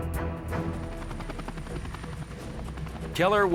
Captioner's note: helicopter roaring